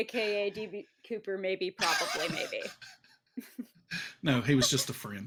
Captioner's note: laughs